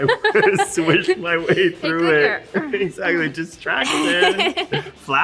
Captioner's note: laughs; laughter